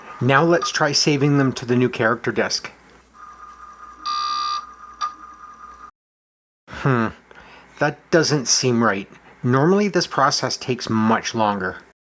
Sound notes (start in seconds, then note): 4.0 c64 floppy disk sounds